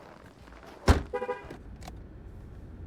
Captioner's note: trunk shuts; car beeps